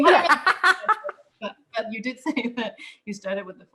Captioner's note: laughter